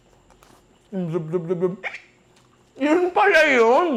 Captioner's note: speaks gibberish